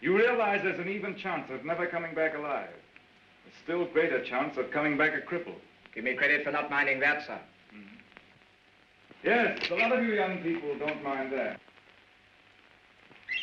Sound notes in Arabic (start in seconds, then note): none